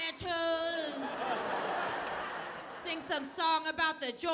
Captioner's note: audience laughing